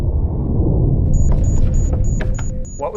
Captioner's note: warning beeps